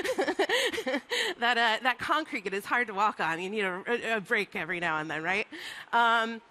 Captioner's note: laughs